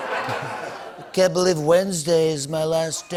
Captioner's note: laughter; As Trump